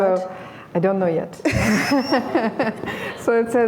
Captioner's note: laughter